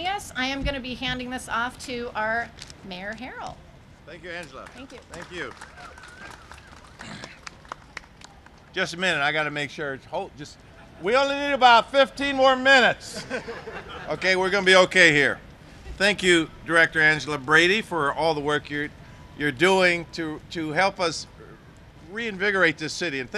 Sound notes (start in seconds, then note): 6.9 applause; 13.1 laughter